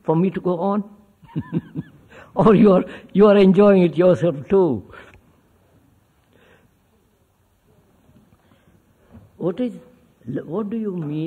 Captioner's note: laughs